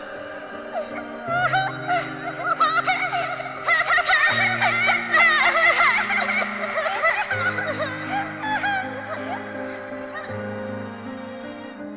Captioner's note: Richar's children Krying